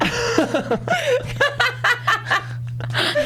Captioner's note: laughs